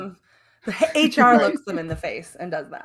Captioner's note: laughs